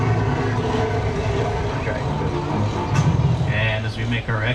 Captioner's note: dinosaur roaring